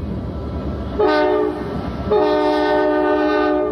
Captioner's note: train hoots